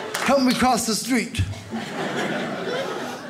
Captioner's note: audience laughs